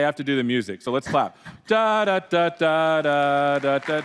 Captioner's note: applause